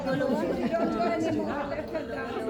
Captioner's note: crowd chattering